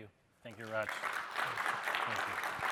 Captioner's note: applause